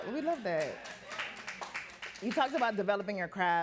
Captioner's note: audience clapping